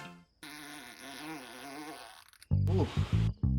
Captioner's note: shart sound